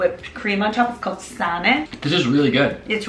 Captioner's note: in foreign language